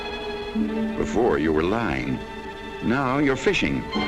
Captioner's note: voiceover